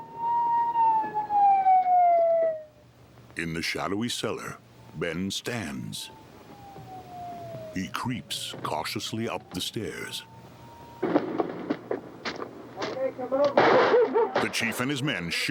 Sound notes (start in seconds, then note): 0.0 sirens blaring; 3.6 sirens blaring in distance; 12.7 dogs barking